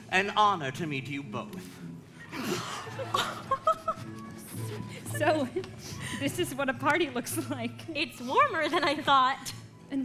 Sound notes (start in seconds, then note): 2.3 Elsa and Anna laugh